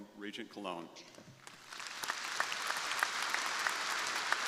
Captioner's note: crowd applauding